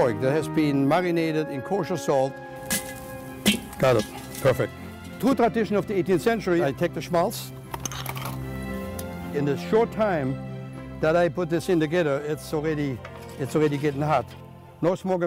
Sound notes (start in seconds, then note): 2.5 cooking sounds